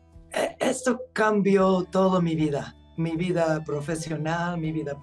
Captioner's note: speaking Spanish